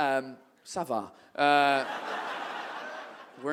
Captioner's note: audience laughs